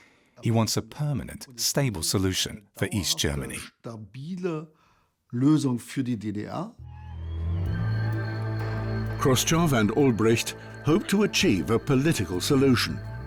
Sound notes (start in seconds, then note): 6.8 cheering